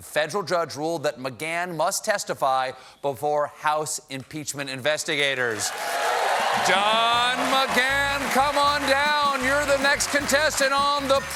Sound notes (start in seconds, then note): 5.5 cheers and applause